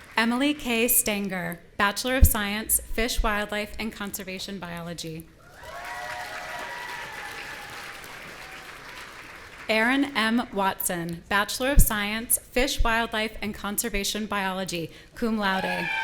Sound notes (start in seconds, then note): 5.4 audience cheering